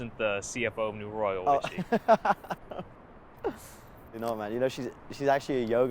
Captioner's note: laughs